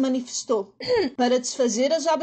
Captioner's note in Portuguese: d.maria das dores aclara a voz